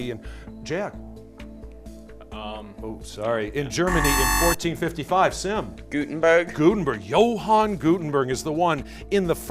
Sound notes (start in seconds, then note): 3.8 buzzer